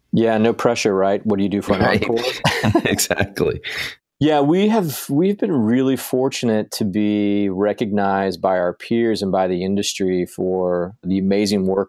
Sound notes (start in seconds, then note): 1.7 laughs